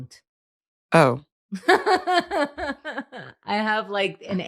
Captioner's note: laughs